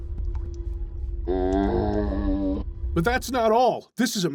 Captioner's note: zombie grunt